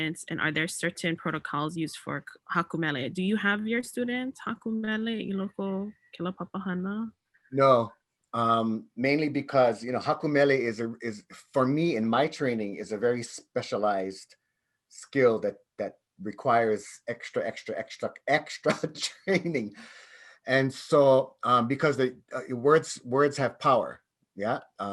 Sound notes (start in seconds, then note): 5.4 speaks in native language